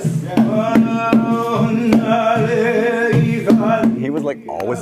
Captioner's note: chanting